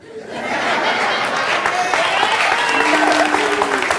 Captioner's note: audience laughing